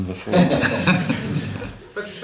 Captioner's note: laughter